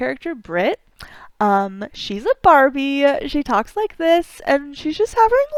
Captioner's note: valley girl voice